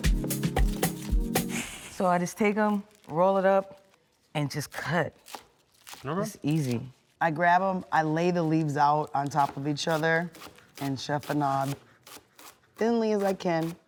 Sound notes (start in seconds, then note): 5.1 knife crunching